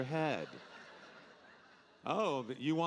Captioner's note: audience laughing